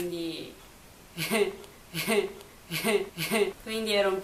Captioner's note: evil laugh